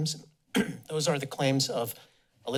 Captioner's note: coughs